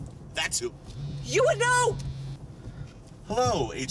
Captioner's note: phone vibrates